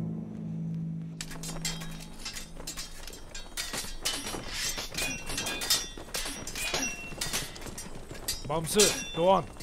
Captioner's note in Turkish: Kılıç sesleri